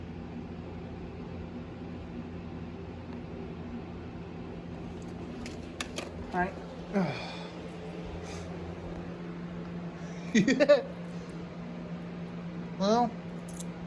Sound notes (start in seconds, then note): 7.6 Ella laughs and giggles